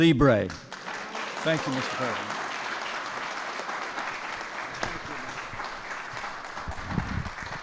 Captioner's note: applause